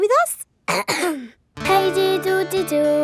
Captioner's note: clears throat